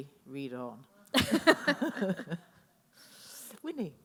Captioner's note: laughing